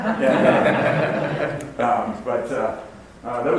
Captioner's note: audience laughs